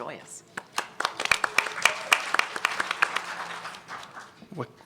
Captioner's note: applause